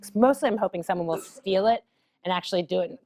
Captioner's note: cough